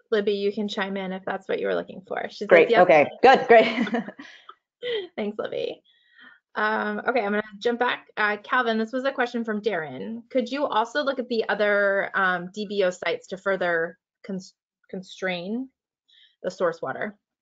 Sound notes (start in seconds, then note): 5.5 laughs